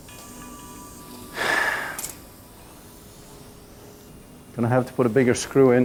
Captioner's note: Noel sighs